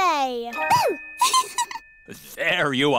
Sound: giggles

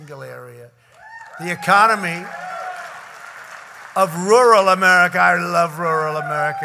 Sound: applause

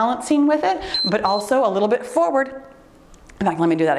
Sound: timer beeps

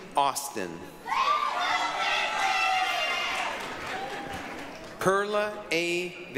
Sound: applause, cheering

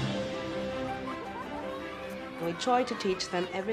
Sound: children playing

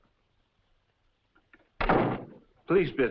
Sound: door slams

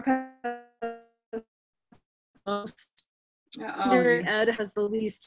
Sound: microphone squelching

